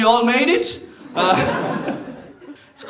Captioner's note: laughter